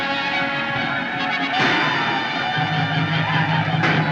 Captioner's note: whooping, Shouting; gunshots